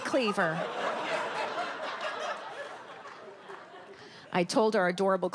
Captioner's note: audience laughs